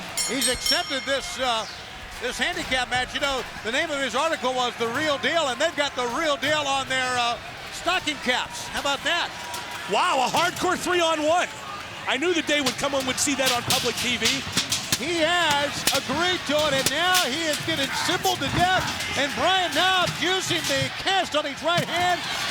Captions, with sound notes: (bell dinging) He's accepted this, this handicap match. You know the name of his article was The Real Deal and they've got the real deal on their stocking caps. How about that? Wow, a hardcore three on one. I knew the day would come when we'd see that on public TV. (trashcan lids thudding) He has agreed to it and now he is getting cymbaled to death and Brian Knobbs using the cast on his right hand